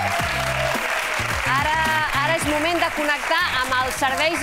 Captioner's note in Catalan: aplaudiments